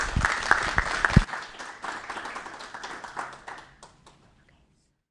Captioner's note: applause